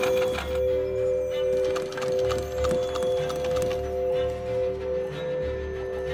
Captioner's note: bowls singing; machine humming